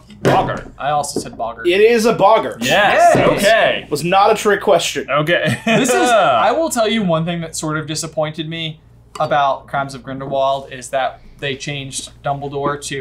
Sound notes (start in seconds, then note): 5.4 laughs